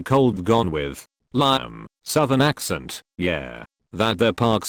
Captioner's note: southern Accent